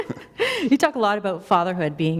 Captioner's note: laughter